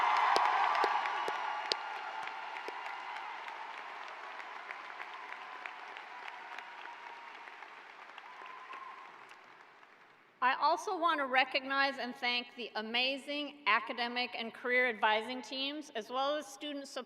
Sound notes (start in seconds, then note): 2.5 cheers and applause